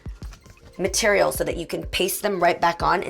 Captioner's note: none